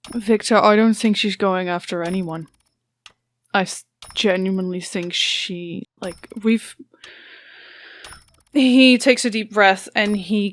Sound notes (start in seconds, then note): 7.1 shaky breath